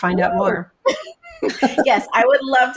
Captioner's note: laughs